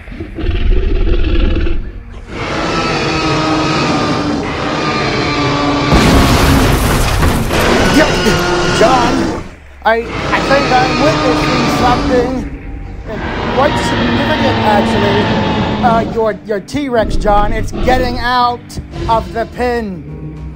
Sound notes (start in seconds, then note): 2.5 T-Rex roaring; 5.9 crashing sounds